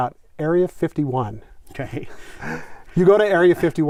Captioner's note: laughs